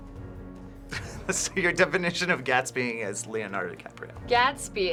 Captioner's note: laughs